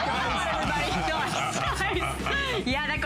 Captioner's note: laughter